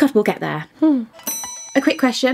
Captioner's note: bell ringing